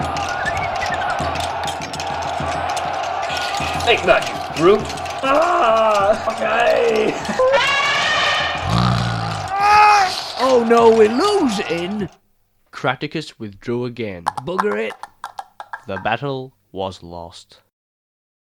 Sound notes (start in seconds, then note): 8.6 elephant trumpets; 8.6 camel snorts; 9.3 crushing sounds